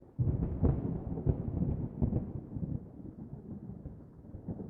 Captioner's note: thunder